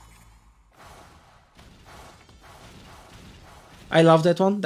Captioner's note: whooshing sound